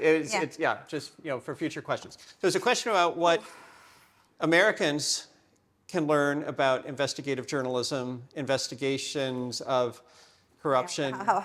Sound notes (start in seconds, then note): 4.6 sighing